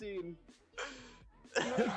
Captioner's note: laughs